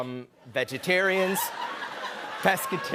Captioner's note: laughter